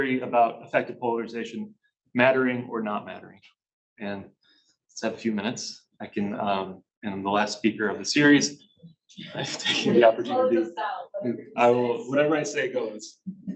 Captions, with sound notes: about effective polarization, mattering or not mattering. And let's have a few minutes I can... And the last speaker of the series, (chuckles) I've taken the opportunity, whatever I say goes.